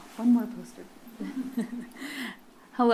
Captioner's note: laughs